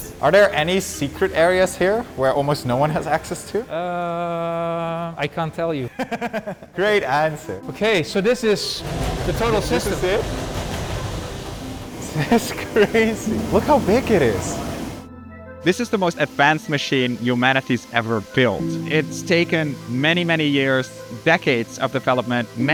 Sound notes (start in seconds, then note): 5.8 laughs